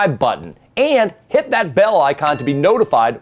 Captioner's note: bell dings